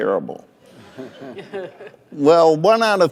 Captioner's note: laughter